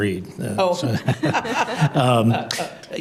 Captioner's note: laughs